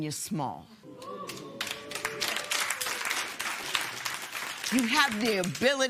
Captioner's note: applause